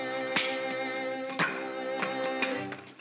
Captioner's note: ominous whimsical music; pieces clatter; crack; ominous whimsical music